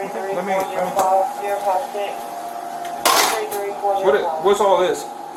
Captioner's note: radio chatter